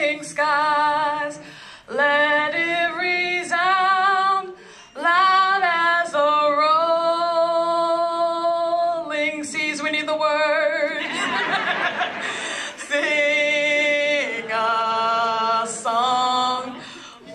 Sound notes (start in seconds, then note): 11.0 laugh